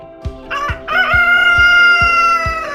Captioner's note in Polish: pianie koguta